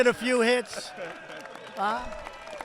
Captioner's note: applause